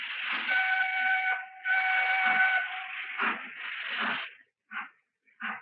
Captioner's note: train whistle blowing